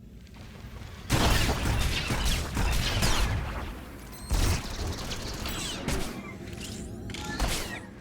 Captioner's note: gunshots